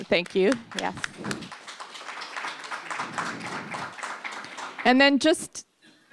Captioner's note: applause